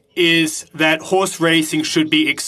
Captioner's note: speaking French